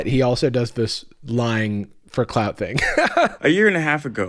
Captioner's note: laughs